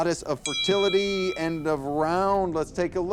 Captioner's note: bell dings